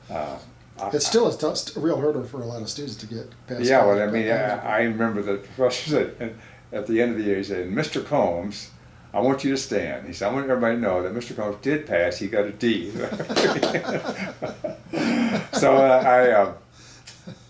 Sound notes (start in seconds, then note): 12.9 both laughing